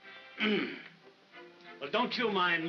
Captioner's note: Ollie grunts